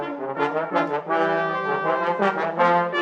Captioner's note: none